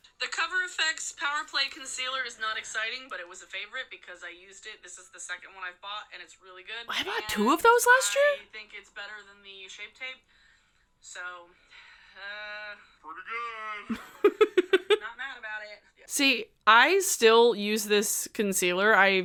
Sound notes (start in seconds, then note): 13.9 chuckles